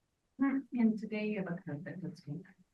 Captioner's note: speaks faintly